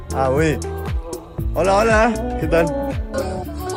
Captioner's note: foreign language 00:29:10